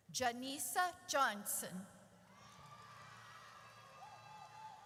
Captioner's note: audience cheers